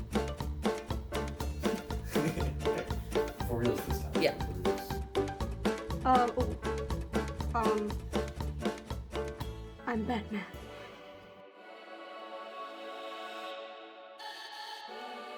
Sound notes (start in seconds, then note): 1.6 laugh